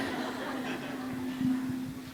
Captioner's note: applause